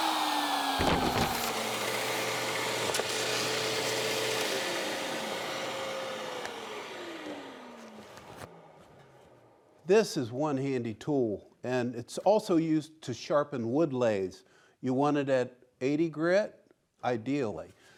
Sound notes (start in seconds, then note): 0.0 router continues whirring; 0.0 strip sander buzzes; 0.8 wood knocking together